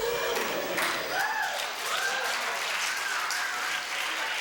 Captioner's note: cheers